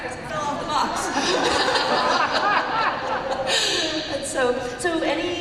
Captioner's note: laughter